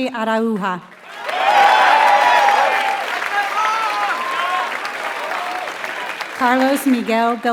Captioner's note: applause